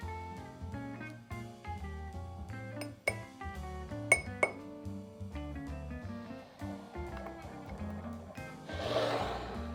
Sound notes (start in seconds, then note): 6.9 whisking